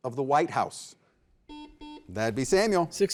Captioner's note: buzzer beeping